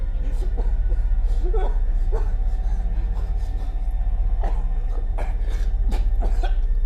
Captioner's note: gentle tense music; victim whimpering